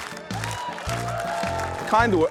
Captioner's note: cheering